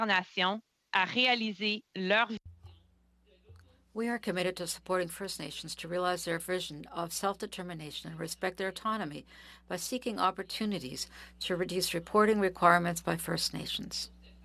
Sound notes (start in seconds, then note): 3.7 speaking French